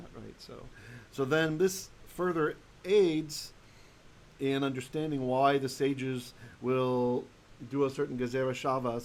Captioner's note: Hebrew